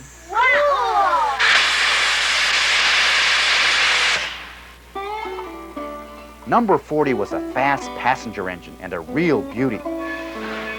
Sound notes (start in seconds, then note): 1.1 steam hissing